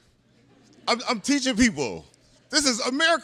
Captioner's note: laughter